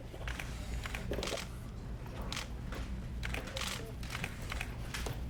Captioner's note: cameras snapping